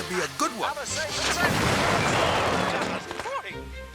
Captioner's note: fireworks blasting